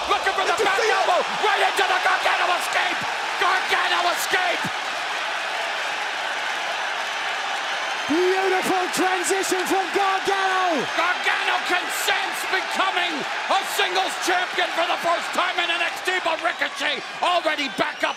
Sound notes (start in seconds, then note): 7.3 cheers and applause